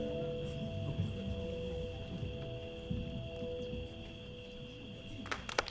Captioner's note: insects chirping